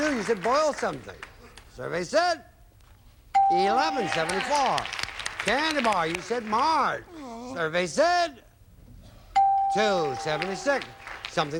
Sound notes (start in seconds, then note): 3.7 audience applauding; 9.8 audience applauding